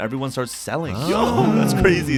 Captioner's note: general agreement